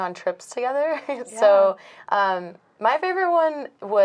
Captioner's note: laughing